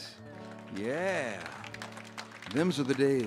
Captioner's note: audience cheers and applauds